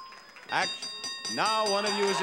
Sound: bell dinging; bell dings

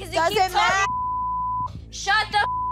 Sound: beep

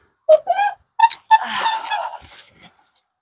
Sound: squeaking wheel

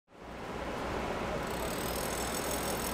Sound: construction noise

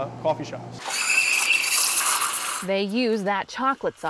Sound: sound of Espresso machine

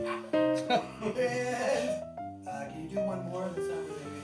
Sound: laughing

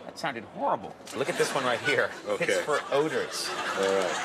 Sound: laughing

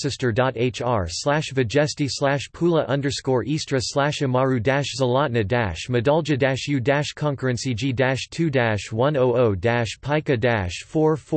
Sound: in Croatian

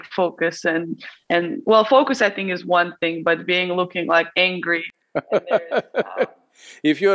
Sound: Sadhguru laughs

